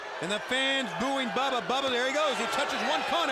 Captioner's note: crowd chatter